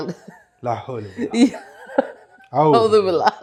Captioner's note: in Arabic